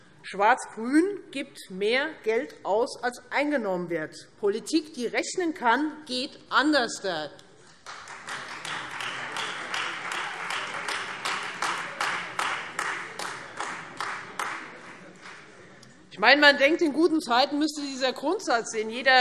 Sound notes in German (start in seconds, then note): 7.7 Beifall